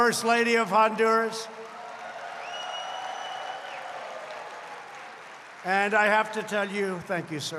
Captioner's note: applause